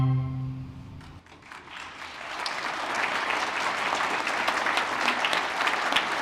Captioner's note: applause